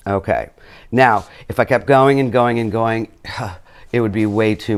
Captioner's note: sighs